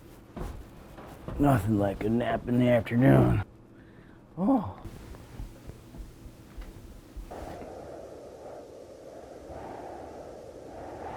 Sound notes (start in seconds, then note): 7.5 wind humming